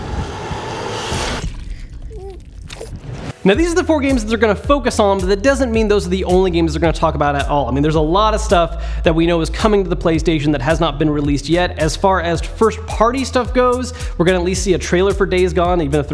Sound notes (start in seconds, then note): 2.0 baby babbling